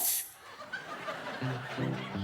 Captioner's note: audience laughs